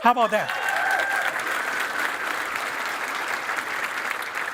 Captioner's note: applause